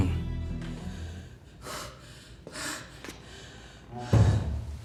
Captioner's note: Rian panting